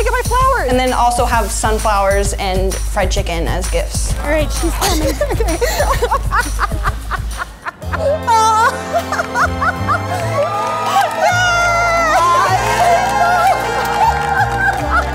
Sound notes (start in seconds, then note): 5.8 laughing; 10.4 crowd applauding; 12.2 screaming